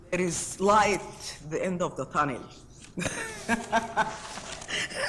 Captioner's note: laughs